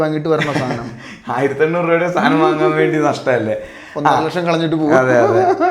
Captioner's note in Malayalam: പൊട്ടിച്ചിരി